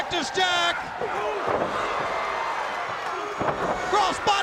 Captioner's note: crowd cheering